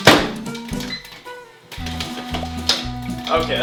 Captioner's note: beep